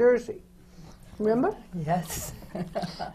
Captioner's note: laughs